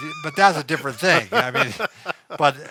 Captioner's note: laughs